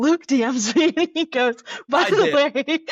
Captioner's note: laughter